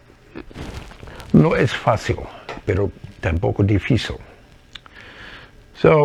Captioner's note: Spanish